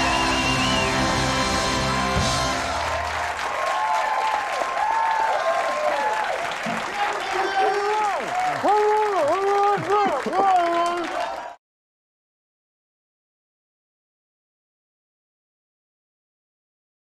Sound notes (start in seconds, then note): 0.1 cymbals roll; 3.4 crowd cheers; 8.7 Conan mumbles